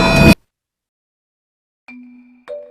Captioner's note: silence